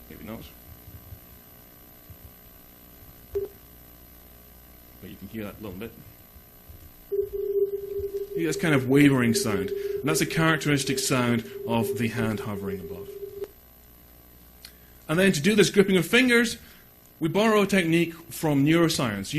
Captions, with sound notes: Maybe not. (beeping) But you can hear that a little bit. (sustained beeping) You get this kind of wavering sound, and that's a characteristic sound of the hand hovering above. And then to do this gripping of fingers, we borrow a technique from neuroscience